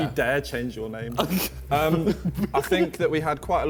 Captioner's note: Ethan giggles